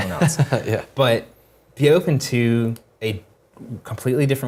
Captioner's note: laugh